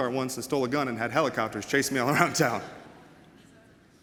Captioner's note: chuckles